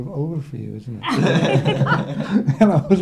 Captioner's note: laughing